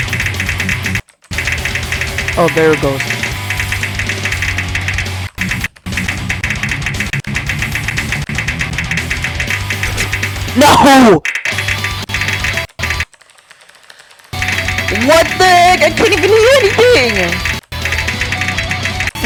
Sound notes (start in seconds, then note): 13.1 aggressive typing